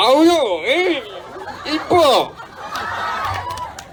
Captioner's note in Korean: 환호